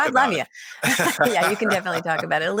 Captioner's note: laughing